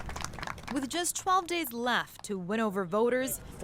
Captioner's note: applause